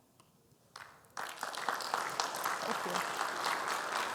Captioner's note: audience applauding